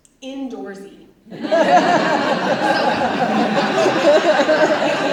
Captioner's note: audience laughs